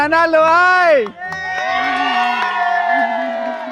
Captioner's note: cheers